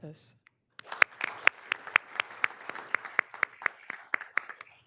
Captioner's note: all applauding